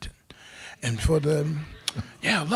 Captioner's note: crowd laughing